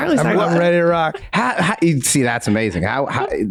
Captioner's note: laughs